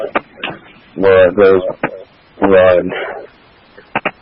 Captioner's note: radio traffic